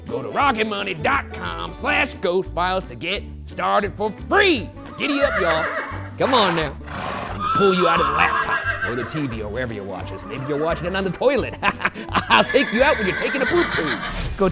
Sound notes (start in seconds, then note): 4.9 horse neighs; 9.6 laughs